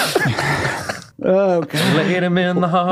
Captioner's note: laughing